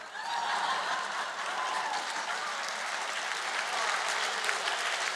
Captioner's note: cheers and Applause